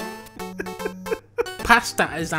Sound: laughing; still laughing

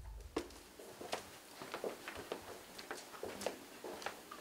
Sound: footsteps tapping

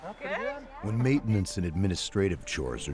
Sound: voiceover

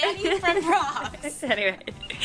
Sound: laughter

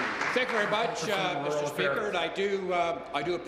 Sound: applause

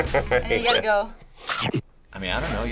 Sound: chomp sound plays

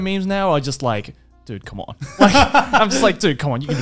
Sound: laughs

